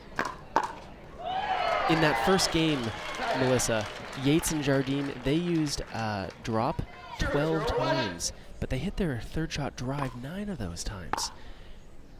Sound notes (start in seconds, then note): 1.3 crowd applauds